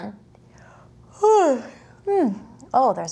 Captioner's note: yawns